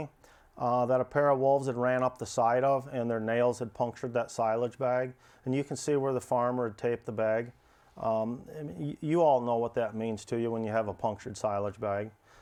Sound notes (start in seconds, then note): none